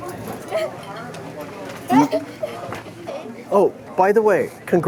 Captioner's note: child laughing